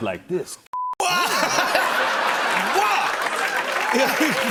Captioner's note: laughs; cheers and applause